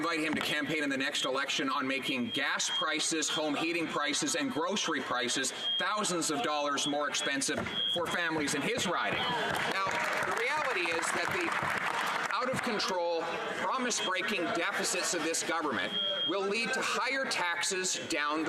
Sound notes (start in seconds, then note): 12.9 some Applause